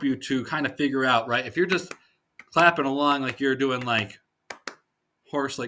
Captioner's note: clapping in sets of two